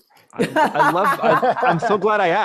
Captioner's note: laughs